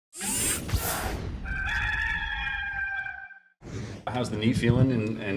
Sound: rooster crowing

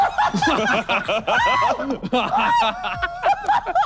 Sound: all laughing

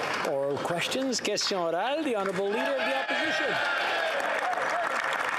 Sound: some Applause

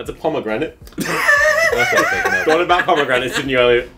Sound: laughs

